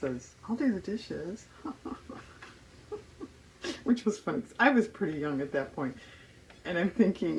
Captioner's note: laughs